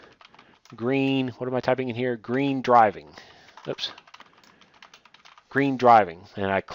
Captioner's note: typing; typing